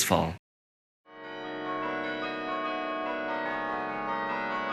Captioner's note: church bells ringing